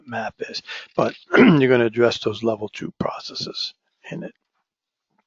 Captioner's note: cough